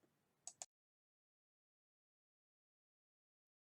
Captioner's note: mouse clicking